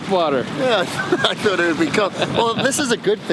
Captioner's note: laughs